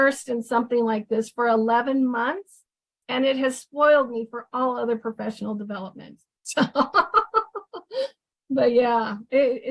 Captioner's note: laughs